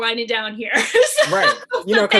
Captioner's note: laughs